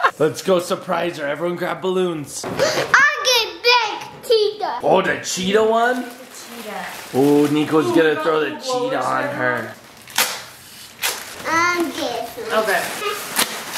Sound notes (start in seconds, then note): 0.0 dad laughs; 2.6 gasps; 9.4 paper crinkle